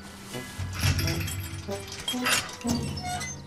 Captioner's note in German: Kettenklirren; Quietschen